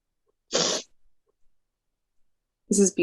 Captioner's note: sniffling